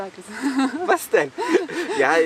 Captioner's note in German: beide lachen